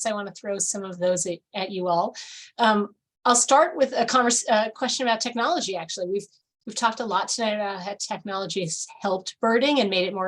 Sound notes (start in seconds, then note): none